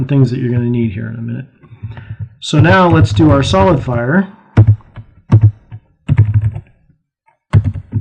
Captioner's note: typing